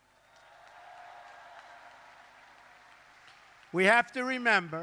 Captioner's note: applause